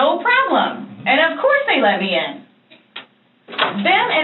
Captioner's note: door clicks open